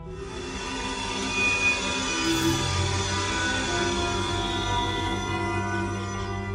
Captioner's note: transporter beam materializes